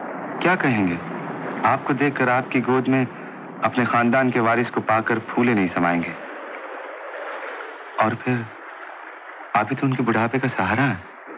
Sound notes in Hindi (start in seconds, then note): none